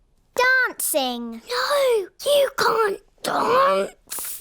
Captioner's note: whispers